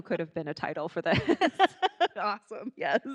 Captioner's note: laughing